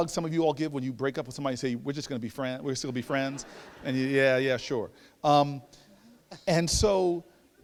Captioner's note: laughter